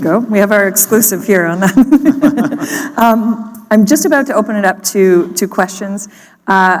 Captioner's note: laughter